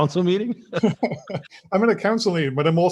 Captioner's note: both laughing